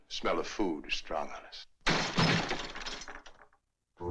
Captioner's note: heavy Door Bangs